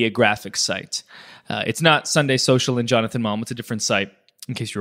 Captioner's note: slurs words